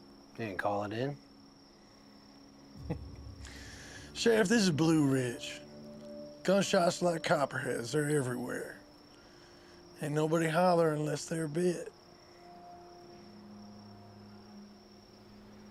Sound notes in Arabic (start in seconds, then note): 2.8 ضحكة مكتومة; 12.4 موسيقى متوترة